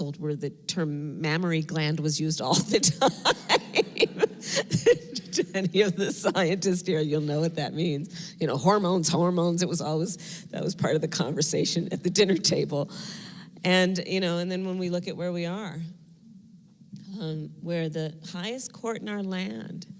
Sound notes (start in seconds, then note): 2.7 laughter